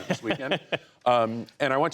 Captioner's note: laughter